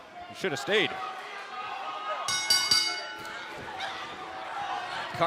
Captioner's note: bell ringing